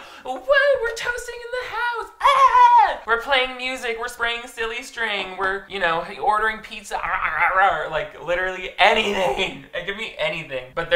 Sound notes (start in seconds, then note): 2.1 screams; 7.3 growling